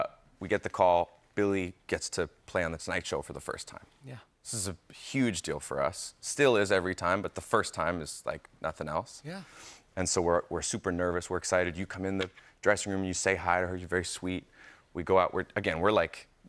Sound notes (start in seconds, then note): none